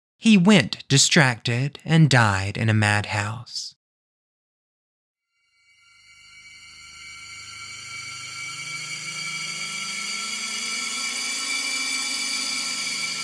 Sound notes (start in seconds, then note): 3.9 bells ringing